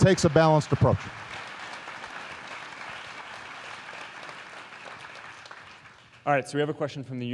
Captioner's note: applause